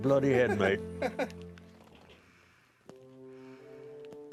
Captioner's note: laughs